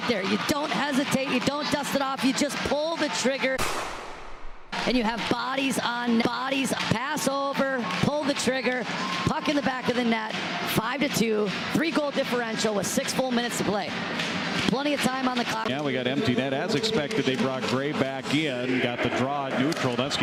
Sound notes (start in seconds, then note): 3.5 gun shot